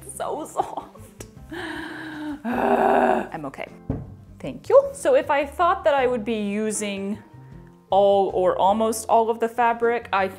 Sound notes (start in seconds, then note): 0.0 unintelligible noises of joy; 1.5 inhale and exhale of overwhelming approval